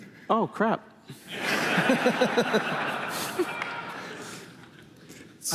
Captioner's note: laughter